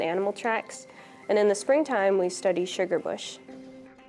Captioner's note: speaks Ojibwe